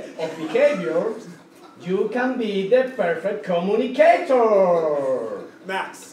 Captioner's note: laugh